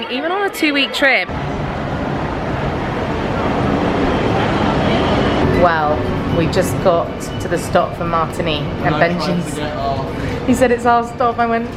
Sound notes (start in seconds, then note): 1.6 train rumbling